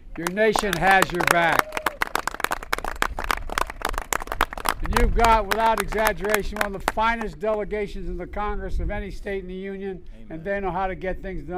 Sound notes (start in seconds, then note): 2.4 applause